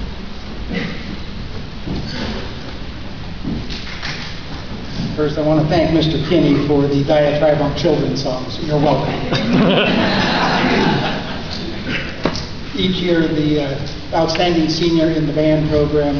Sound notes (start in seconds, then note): 11.8 laughter